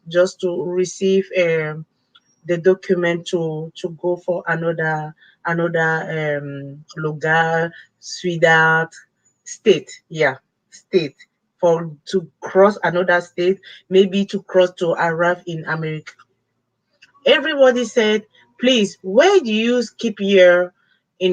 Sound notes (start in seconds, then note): 4.7 speaking foreign language